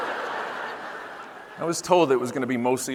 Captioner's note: audience laughing